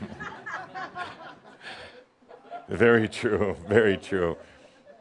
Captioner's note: some chuckles